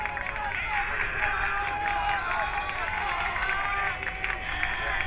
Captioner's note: crowd cheering